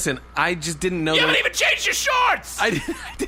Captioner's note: shrieking; laughing